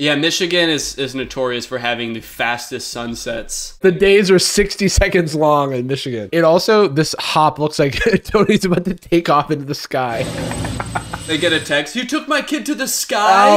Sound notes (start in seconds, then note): 10.1 laughs; 10.2 wooshing